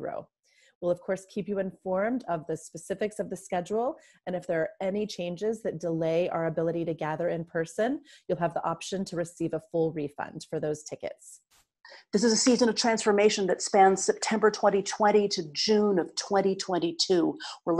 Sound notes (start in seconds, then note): none